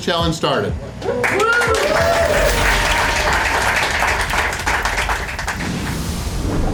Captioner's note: crowd clapping and cheering